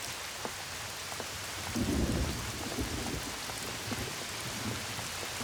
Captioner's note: thunder